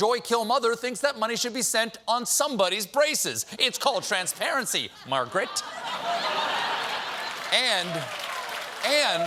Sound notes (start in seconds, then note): 6.6 applause; 6.6 laughter